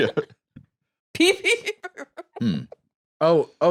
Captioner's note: laughing